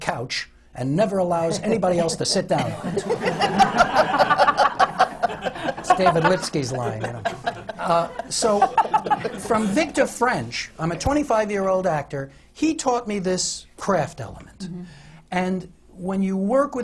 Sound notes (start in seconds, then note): 2.5 laughter